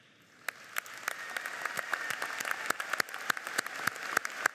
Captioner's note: audience applauds